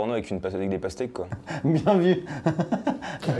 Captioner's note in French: en riant